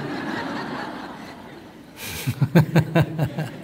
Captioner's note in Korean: 청중 웃음